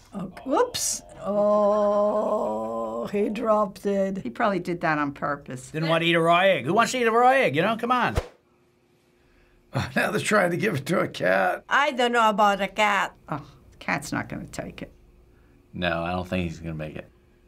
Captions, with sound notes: - Whoops! Ohhh. He dropped it. - He probably did that on purpose. - Didn't wanna eat a raw egg. Who wants to eat a raw egg, you know? Come on. - (laughs) They're trying to give it to a cat. - I don't know about a cat. - Oh, cat's not gonna take it. - No, I don't think he's gonna make it.